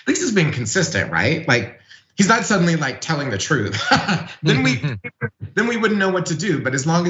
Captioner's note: laugh